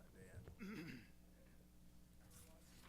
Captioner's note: clears throat